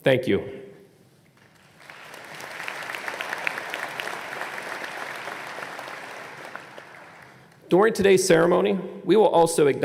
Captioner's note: applause